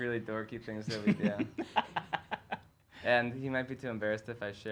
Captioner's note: laughs